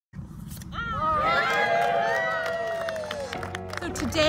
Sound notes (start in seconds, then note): 1.3 applause